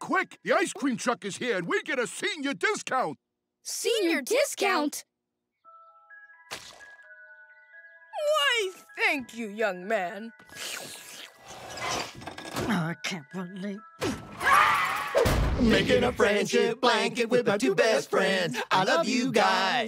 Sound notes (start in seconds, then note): 5.4 chiming; 14.4 screaming